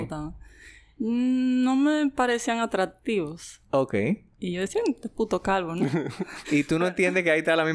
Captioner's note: laughs